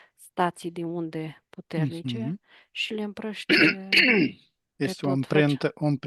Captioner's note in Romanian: voce dreasă